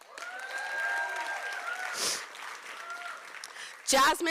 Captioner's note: applause